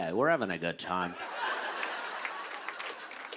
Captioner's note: laughter